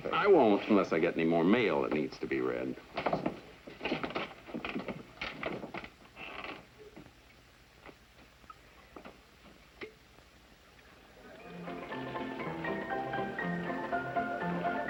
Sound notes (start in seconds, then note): 11.4 up-tempo music playing; 12.0 bell rings